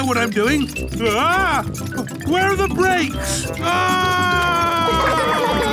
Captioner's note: scream